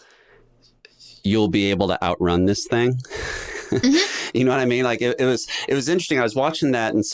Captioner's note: chuckles